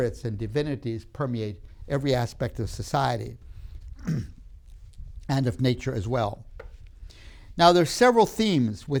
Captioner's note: clears throat; clicks tongue